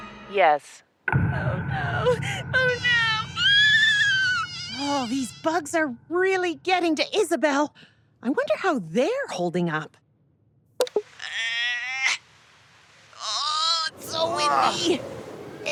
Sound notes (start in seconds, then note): 1.1 dramatic, scary music; 3.3 Isabelle screams; 10.7 computer clicks, beeps; 10.7 gal grunts in exertion